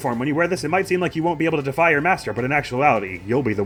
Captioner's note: none